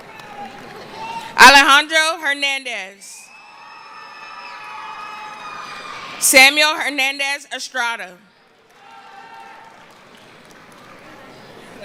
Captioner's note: screaming